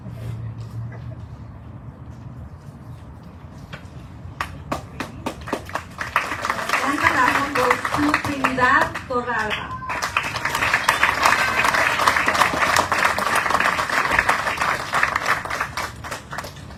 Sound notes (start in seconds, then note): 4.9 audience cheering, applauding